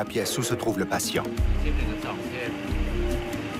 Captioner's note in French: Audio parlé en langue étrangère